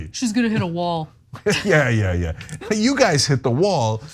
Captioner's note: laugh